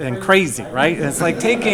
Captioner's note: laughing